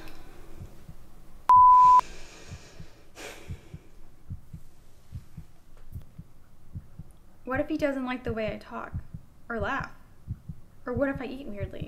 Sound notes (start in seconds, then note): 3.4 heart beating